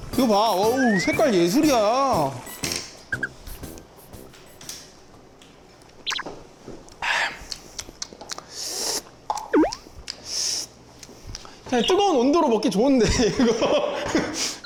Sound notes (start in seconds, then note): 8.6 slurp, slurp